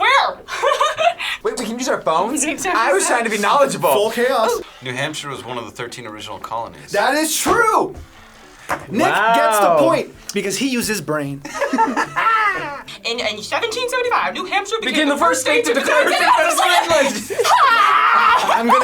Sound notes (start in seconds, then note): 0.4 laughing; 11.4 laughing